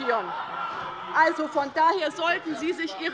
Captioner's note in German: Lachen bei der CDU